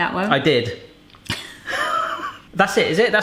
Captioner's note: laughing